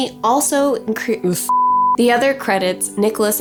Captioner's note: beep